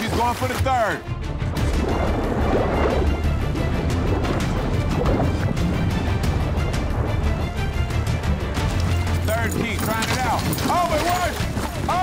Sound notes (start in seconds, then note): 1.5 water gurgling; 1.6 urgent music